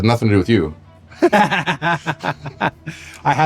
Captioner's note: laughing